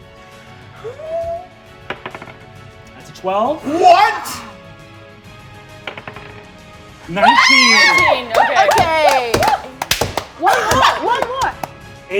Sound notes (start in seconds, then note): 1.9 die rolling; 5.9 die rolling; 7.2 cheering